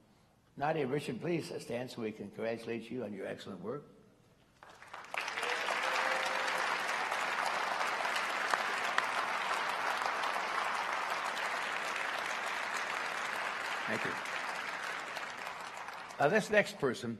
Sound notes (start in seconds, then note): 4.5 applause